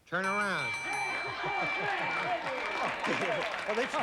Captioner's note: laughs